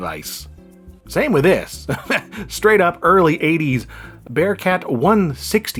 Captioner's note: laughs